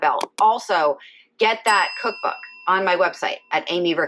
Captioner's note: bell dinging